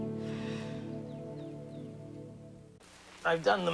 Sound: sighs

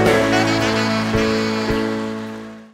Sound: applause

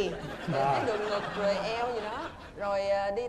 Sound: laughing

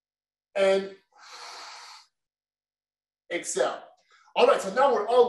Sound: exhales; inhales

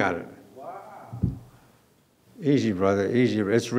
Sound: murmuring

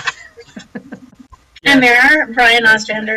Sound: laughs

